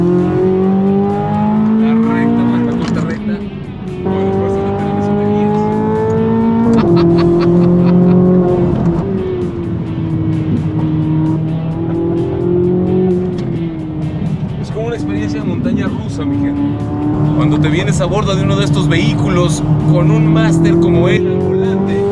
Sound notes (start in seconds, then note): 0.7 engine revving; 0.7 laughter